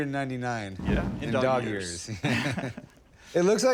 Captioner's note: laughter